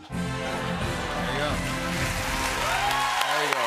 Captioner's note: cheers and applause